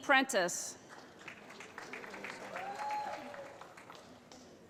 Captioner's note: cheering